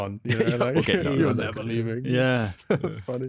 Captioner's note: laughs